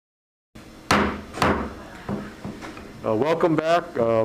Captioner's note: gavel pounds